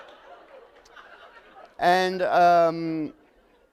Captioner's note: laughter